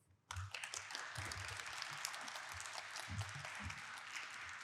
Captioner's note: audience applauding